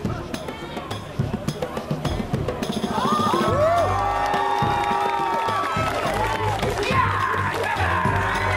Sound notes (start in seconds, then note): 3.4 audience Claps and Cheers